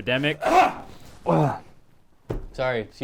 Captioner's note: sneezes